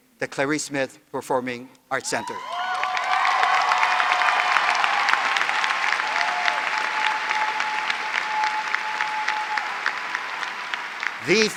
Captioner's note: applause